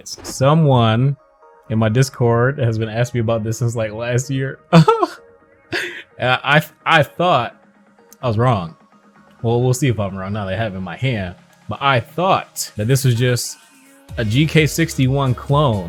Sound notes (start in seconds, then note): 4.7 giggles